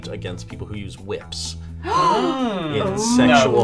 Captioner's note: gasping